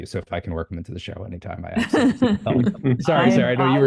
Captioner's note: laughs